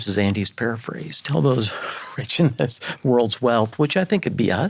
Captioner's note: chuckling